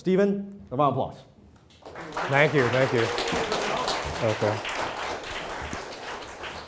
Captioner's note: applause